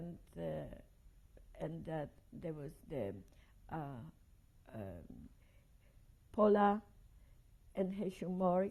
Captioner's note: pauses for 3 seconds